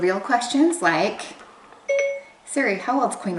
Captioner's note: ding